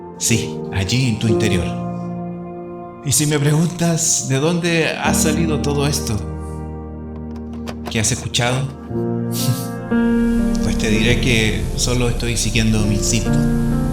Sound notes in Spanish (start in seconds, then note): 9.4 chuckels